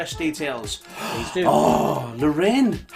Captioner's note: gasping